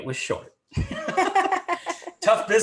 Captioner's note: everyone laughing